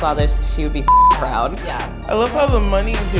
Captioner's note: beep